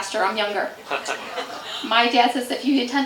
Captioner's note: chuckles